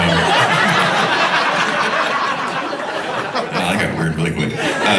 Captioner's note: audience laughing